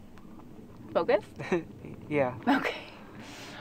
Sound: laughs

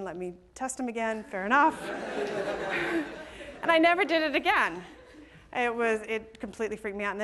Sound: laughter

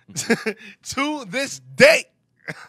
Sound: laughing

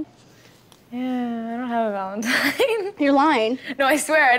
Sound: laughs

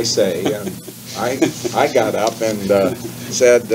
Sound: chuckles

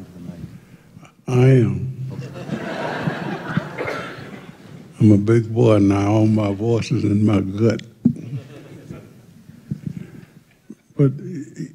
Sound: laughter

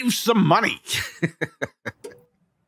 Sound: laughing

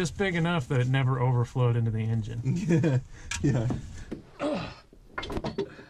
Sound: laughs

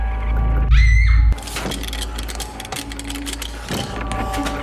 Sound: screaming

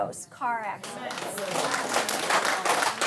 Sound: audience clap

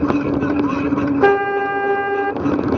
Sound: honk

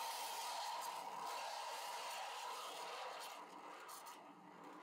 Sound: steam wand hissing

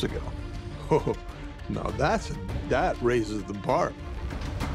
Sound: chuckles

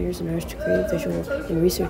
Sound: really loud kids in background >:/

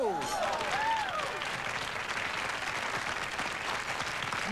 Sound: applause

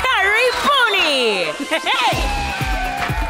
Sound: cheering; chuckling

